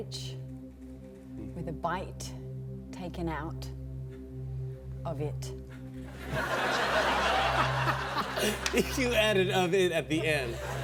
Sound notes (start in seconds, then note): 6.1 laughter